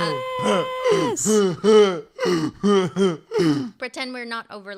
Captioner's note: laughs